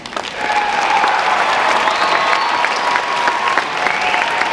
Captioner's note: audience applauding